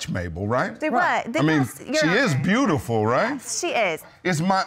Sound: arguing

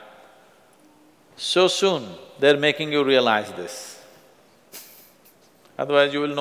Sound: laughs

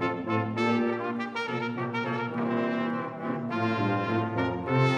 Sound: none

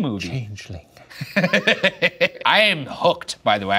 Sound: laughing

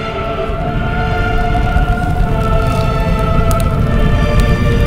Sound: fire burning

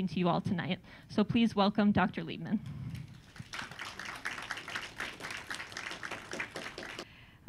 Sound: applause

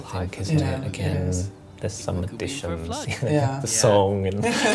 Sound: they both laugh; laughs

